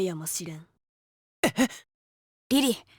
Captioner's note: whisper